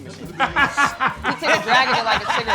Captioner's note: sucking sound